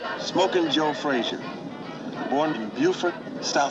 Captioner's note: car humming